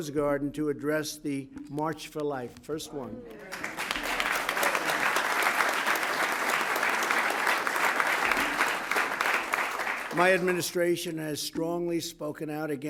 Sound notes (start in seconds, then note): 3.3 applause